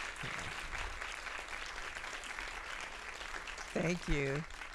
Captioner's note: audience applauding